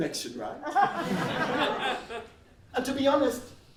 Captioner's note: laughs